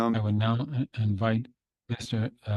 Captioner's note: speaking French